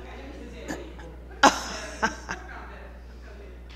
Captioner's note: laughter